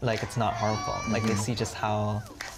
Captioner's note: crowd claps